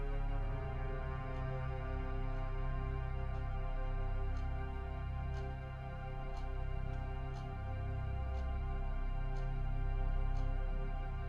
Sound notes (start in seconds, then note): 4.6 clock ticking